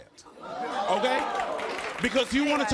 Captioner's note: crowd whoops